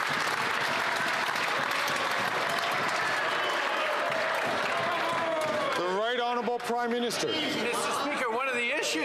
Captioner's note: some Applause